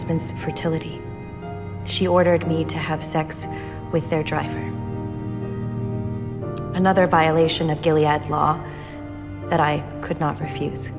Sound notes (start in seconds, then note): 2.1 voiceover; 6.8 voiceover